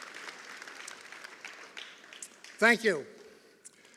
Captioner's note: applause